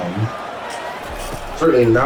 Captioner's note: crowd Noises